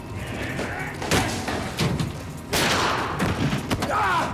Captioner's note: grunts; thuds; groans